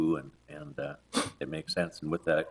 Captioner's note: attendee sniffs